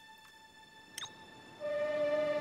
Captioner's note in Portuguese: som de clique; lamento melódico